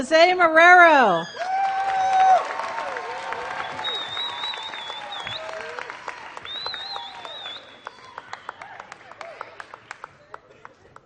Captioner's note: applause